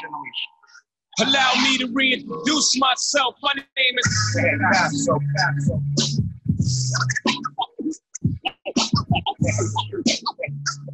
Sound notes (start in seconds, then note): 7.1 record scraping